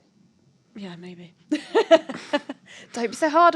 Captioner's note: laughter